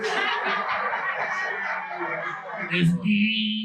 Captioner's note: audience laughing